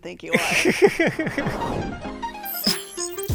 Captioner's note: speaker laughs; upbeat music